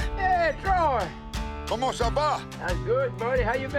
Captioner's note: speaking French